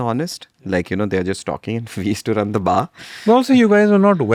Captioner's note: laughs